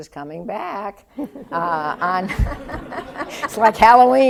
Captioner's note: laughter